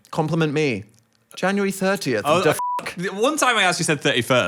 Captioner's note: beep